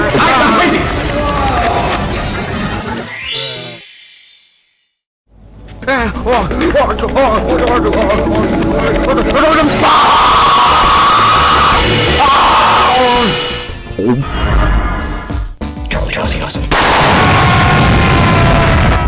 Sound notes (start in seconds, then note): 5.7 more panic noises; 9.8 loud screaming and vacuuming